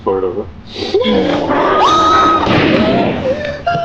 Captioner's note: Megan growling; screaming; gun firing